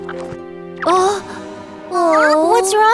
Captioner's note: gasps